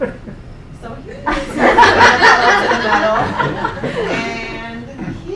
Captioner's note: laughing